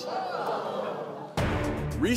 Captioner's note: crowd gasps